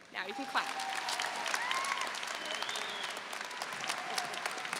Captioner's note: audience applauding